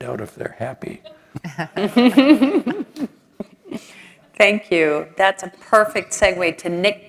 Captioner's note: laugh